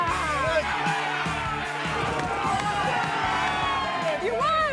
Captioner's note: spectators cheer